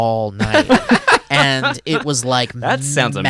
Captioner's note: laughs